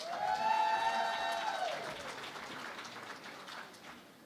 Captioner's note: cheering and Applause